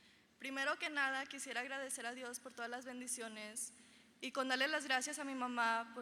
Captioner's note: speaking in foreign language